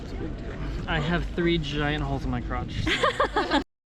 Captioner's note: laughter